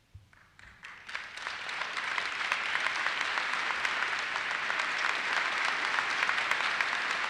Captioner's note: audience applauses